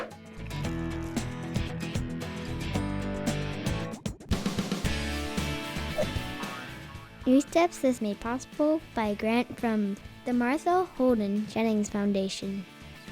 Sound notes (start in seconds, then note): 0.1 graphic whooshes; 0.1 upbeat music; 5.9 graphic whooshes and boings; 12.9 upbeat music continues